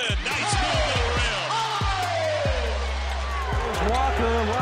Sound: cheering

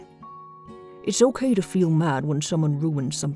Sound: voiceover

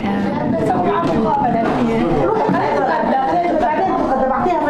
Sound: speaking in Arabic

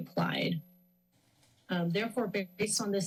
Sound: pause

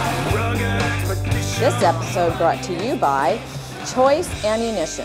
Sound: voiceover

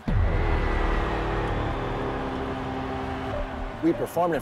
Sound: cheering

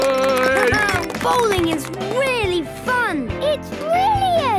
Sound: clapping, laughing

